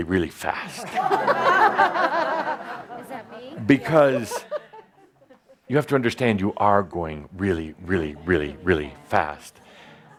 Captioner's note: laughter